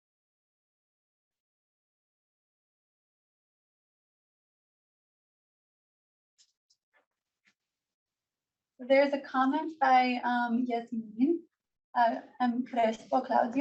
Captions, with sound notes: There is a comment by (foreign language) she says,